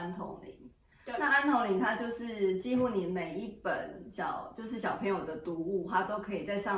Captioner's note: German